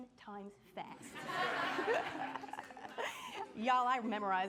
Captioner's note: laughing